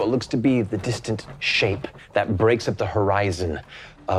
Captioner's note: none